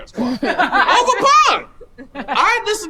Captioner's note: woman laughing